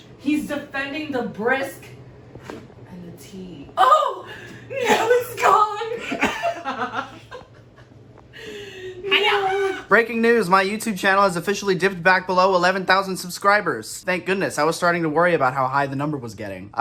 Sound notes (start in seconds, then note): 5.9 laughter